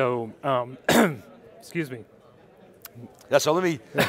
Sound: coughs

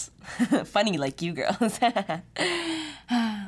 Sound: laughs

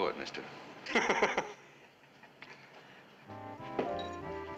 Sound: laughs

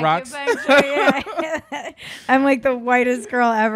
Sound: laughing

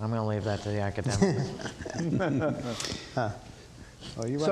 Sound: panel chuckles

